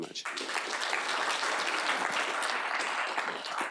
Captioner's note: clapping